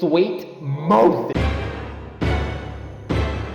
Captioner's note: jumpscare